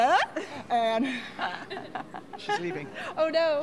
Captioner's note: laughs